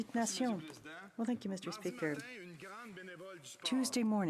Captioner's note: speaking french